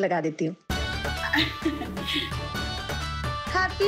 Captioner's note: chuckling